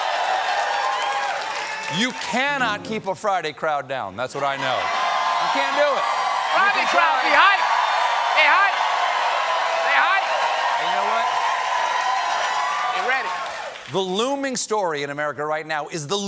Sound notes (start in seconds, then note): 4.3 cheers